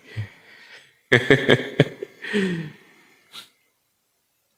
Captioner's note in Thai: เสียงหัวเราะ